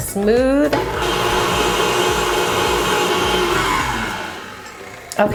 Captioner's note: mixer whirs